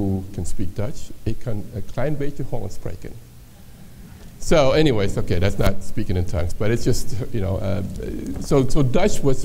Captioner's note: speaks dutch